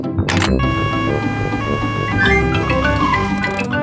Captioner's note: siren wailing